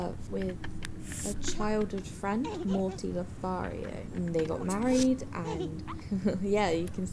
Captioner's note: laughs